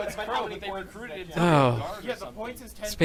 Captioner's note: sighs in relief